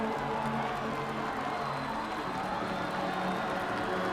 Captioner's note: crowd cheering